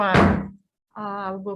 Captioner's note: gravel bangs